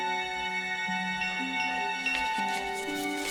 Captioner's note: doorbell